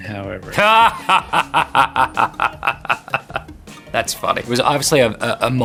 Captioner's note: laughing